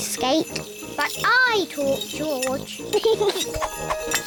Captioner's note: snorts; giggles